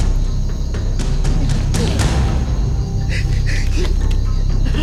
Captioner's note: man struggling